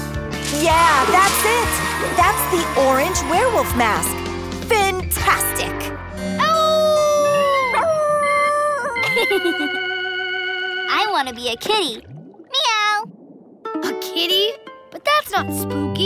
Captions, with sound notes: Yeah, that's it. That's the orange werewolf mas. Fintastic. [howling] [laughing] I want to be a kitty. Meow! A kitty? But that's not spooky.